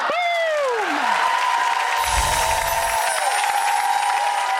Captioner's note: audience cheering